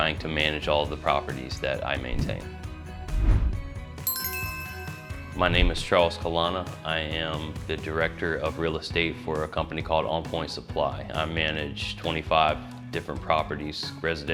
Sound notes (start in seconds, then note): 2.4 bright music; 3.2 logo swooshing; 4.0 magical chime